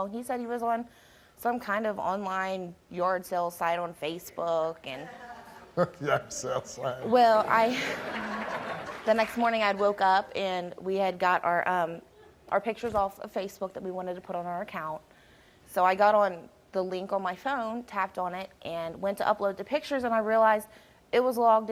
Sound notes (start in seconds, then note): 8.3 laughs